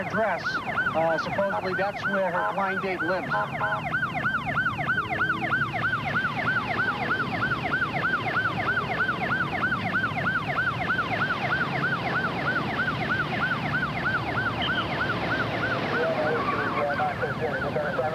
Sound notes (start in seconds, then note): 3.8 siren blaring